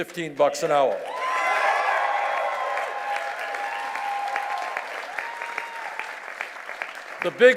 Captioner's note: cheers and applause